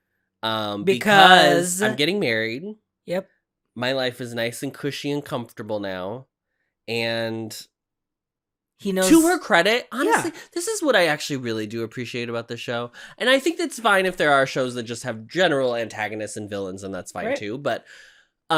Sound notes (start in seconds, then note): none